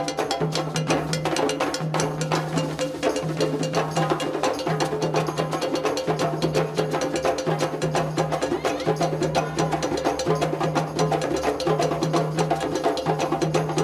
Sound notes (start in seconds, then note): 8.2 people exclaiming